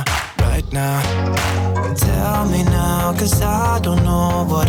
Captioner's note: applause